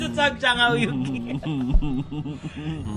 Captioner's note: chuckling